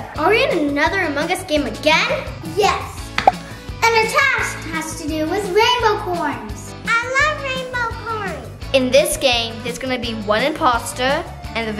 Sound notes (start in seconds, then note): 3.2 button clicking